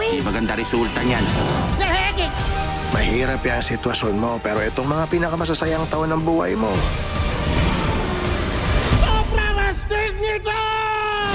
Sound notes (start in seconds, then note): 1.6 exclaims; 6.9 roars